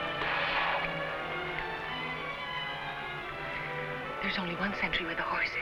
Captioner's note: lips smacking